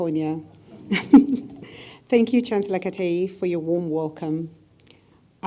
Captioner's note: laugh